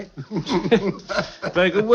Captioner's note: laughing